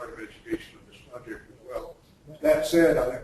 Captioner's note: distorted speech